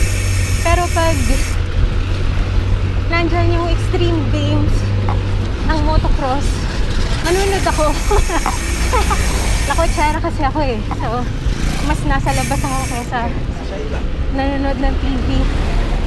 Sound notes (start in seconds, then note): 7.2 laughs